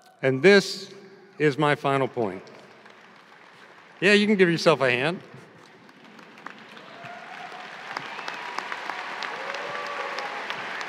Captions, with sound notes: And this is my final point. (audience applauding) Yeah, you can give yourself a hand. (audience applauding)